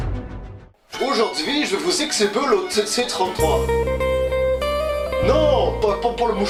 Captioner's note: Canadian accent